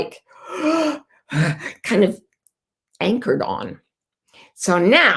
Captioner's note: gasping